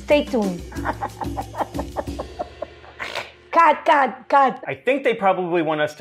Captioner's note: giggling